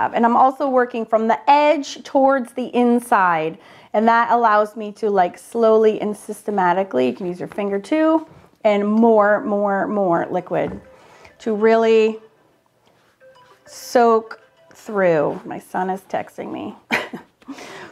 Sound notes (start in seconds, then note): 13.6 cellphone ringing